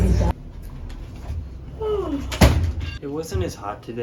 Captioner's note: yawn